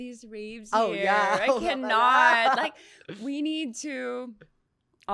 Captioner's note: laughs